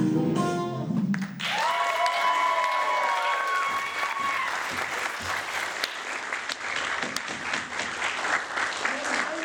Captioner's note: applause